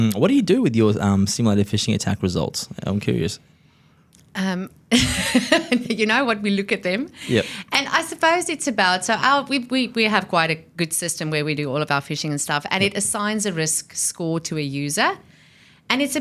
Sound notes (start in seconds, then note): 4.7 laughs